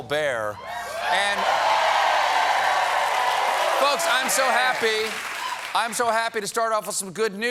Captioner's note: cheers and applause